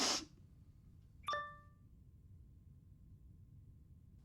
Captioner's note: Liz sniffles; laptop chimes